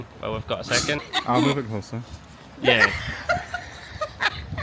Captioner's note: laughter